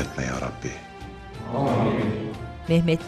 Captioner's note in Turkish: Hep bir ağızdan